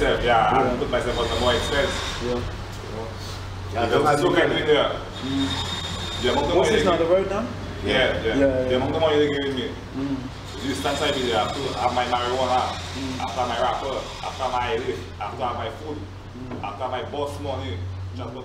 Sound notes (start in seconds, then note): 6.6 road construction